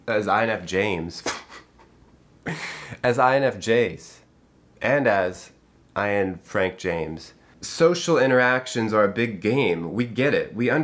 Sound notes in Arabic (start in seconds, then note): 1.2 يضحك